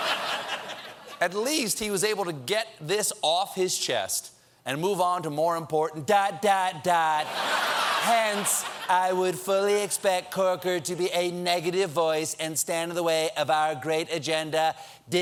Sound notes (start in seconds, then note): 4.8 laughter